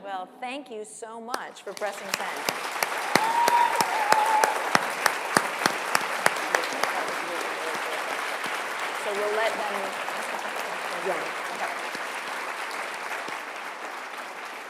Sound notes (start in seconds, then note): 5.0 applause